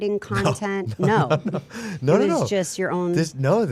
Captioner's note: laughing